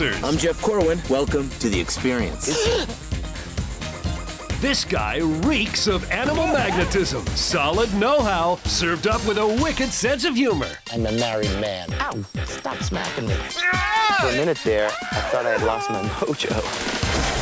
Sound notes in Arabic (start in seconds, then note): 13.6 يئن